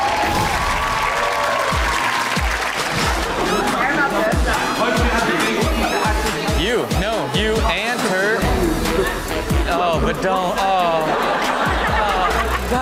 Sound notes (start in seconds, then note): 0.0 audience cheers; 0.1 upbeat music; 3.9 people arguing; 10.0 audience laughs